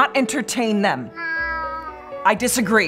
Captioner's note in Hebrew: יללה